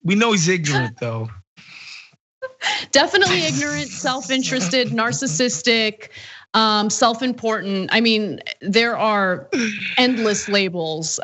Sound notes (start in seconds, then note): 2.5 laugh